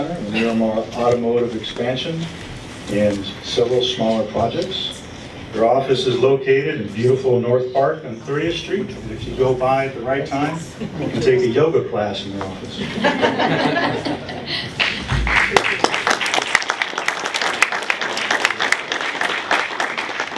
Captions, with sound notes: Miramar automotive expansion and several smaller projects. Their office is located in beautiful North Park on 30th Street and if you go by at the right time to take a yoga class in their office. [LAUGHTER] [APPLAUSE]